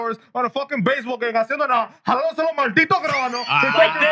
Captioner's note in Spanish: Hablando en idioma extranjero